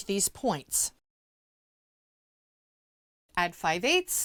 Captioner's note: no Sound Present